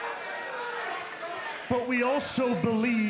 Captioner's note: crowd cheering